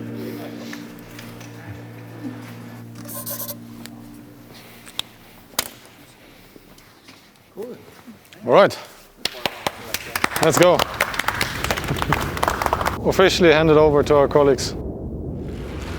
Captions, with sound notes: (pen whirs) (pen clacks) - All right, let's go. (everyone claps) Officially handed over to our colleagues.